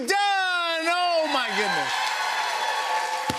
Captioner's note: cheers and applause